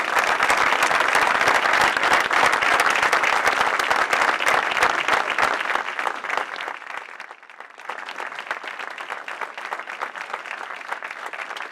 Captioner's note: applause